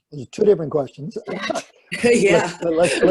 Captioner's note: laughter